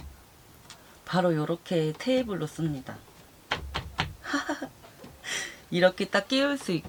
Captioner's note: laughing with joy